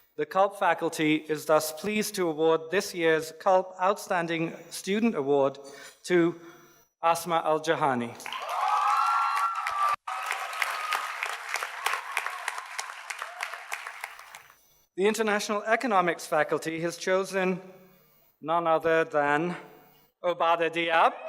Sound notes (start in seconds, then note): 8.2 audience cheers and applauds